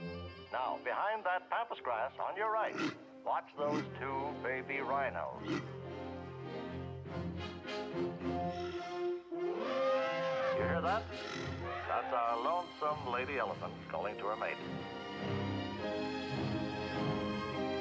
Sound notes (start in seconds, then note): 9.4 sound of elephant trumpeting